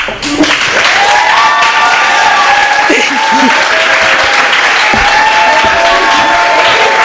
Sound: applause

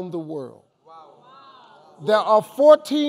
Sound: crowd

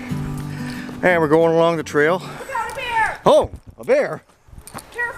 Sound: yells

